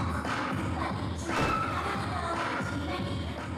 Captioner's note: crash